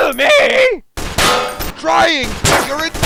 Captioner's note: gun fires